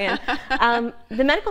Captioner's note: laughter